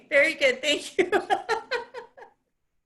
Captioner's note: laughs